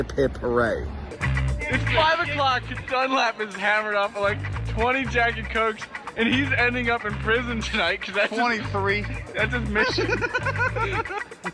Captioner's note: laugh